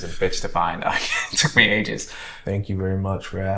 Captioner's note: chuckles